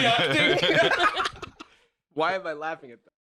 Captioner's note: all laugh